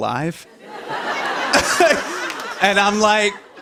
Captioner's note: laughter